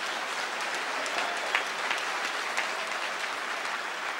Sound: audience applauds

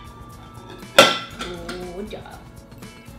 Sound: dish clanking

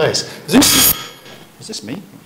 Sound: microphone screeches

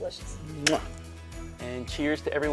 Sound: lips smacking

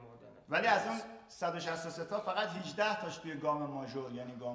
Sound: speaking in farsi

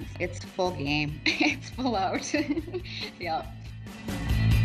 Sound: chuckles

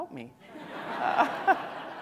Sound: laughter

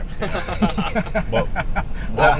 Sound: laughs

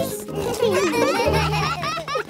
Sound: all laughing

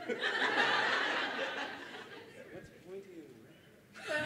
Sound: laughter

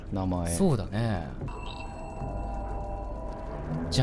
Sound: bell tinkles

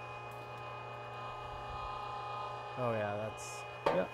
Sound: machine roaring

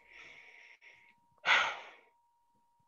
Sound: Bear sighs

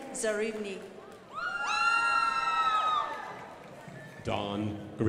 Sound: crowd applauding

